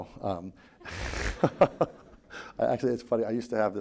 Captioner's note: laughing